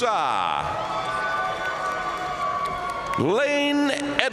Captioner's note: audience cheering and applauding